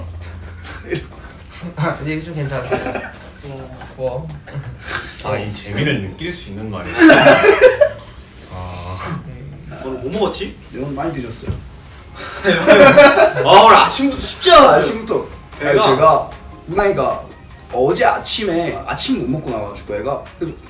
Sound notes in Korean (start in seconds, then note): 2.6 웃음; 6.8 웃음; 12.1 웃음